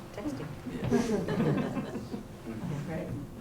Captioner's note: non-english speech; chuckles